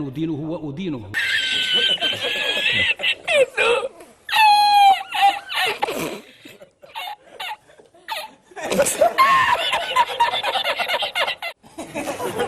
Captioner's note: laughter 😂